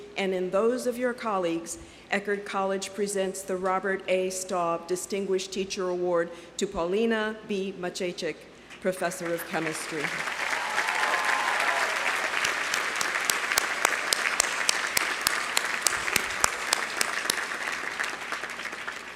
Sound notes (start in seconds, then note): 9.2 audience applauding; 10.1 audience cheering